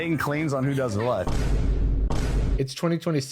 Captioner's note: Vine boom. Vine boom x2